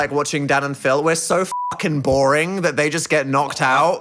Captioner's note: beeping